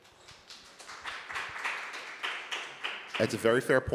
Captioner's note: applause